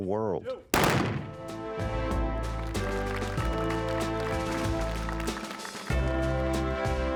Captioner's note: gun shot. Applause; western music